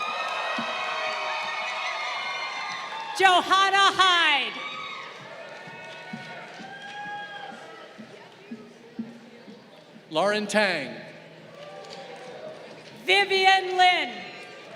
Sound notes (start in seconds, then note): 0.0 crowd cheering; 11.4 crowd applauding